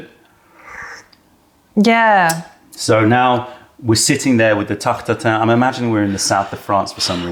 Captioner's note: sips tea